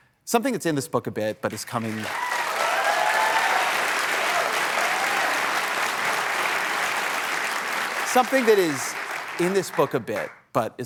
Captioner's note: applause